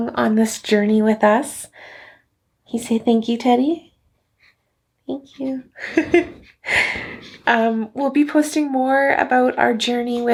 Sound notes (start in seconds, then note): 5.7 laughing